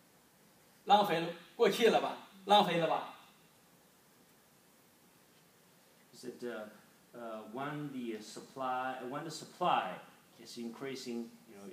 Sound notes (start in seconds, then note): none